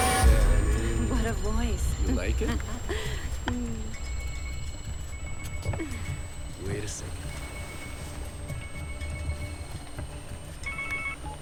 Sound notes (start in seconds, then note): 2.6 phone ringing